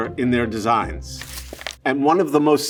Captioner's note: paper rustling